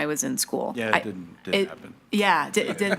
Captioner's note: laughs